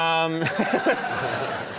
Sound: laughter

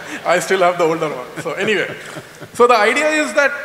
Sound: laughter

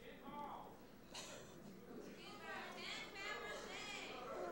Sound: audience shouting

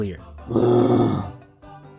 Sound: bear roar

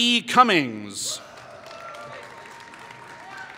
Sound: applause

